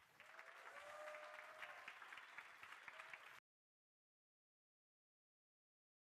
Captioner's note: crowd cheering and applauding